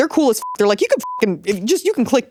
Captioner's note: beep